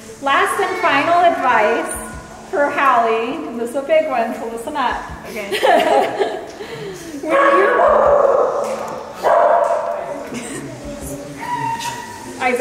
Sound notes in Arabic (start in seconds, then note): 5.3 يضحكان; 7.3 نباح كلب; 10.4 تضحك